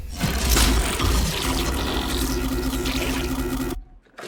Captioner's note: device screeching